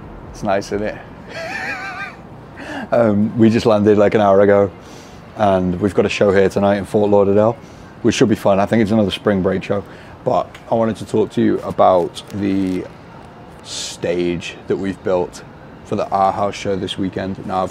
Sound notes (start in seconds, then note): 1.2 laughing